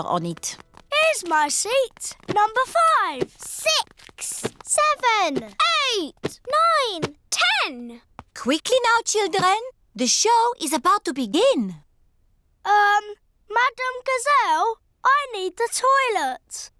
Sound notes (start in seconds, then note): none